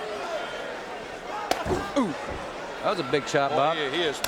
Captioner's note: hand thudding